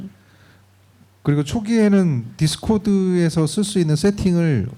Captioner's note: speaking korean